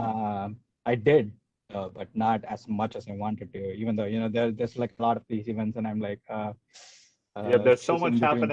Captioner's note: breathes in